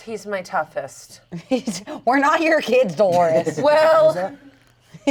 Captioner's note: laughs